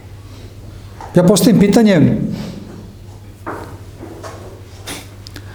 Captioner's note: snort